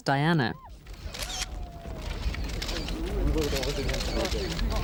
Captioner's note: cameras clicking